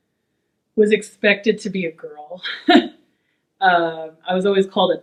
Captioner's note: laughs